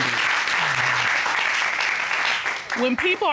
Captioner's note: applause